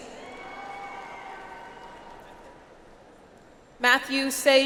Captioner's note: audience applauds